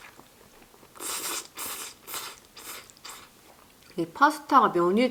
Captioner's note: A very rhythmic inhaling sound